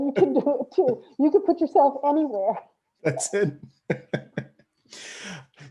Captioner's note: laughs